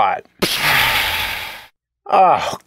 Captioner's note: pshaaa!